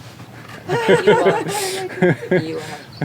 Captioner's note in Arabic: يضحك